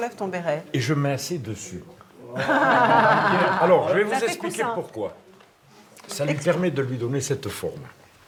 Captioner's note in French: rires